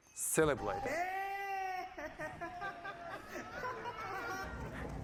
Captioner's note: scientists cheering